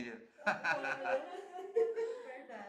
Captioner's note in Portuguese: risos